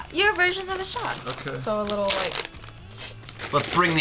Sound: slurps

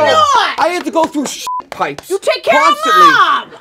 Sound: beep

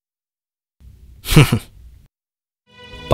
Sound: chuckles

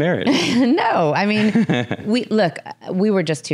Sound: laughs

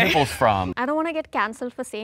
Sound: speaks foreign language

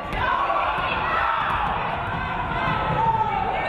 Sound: audience cheering

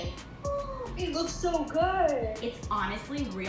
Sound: gasps

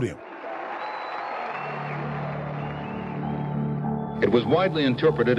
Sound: cheering

